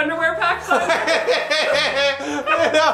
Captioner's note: embarrassed laughter